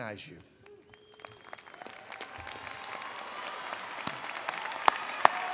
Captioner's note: attendees applauding